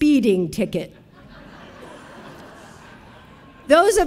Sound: audience laughing

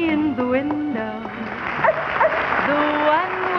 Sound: dog barks

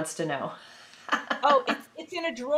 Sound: laughing

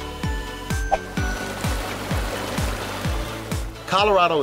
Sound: babbling water

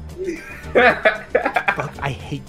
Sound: laughs

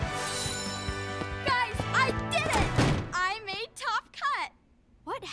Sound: door bangs

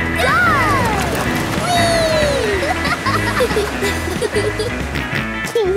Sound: laughing; snorts and giggles

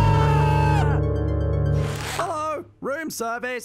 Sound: screaming; shapeshift sound

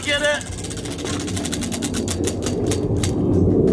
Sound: wheel spinning

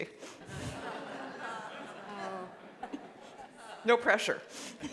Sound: audience laughing

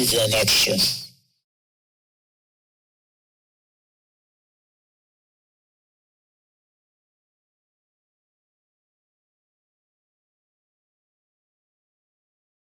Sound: silence

